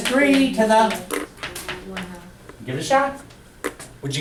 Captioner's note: voiceover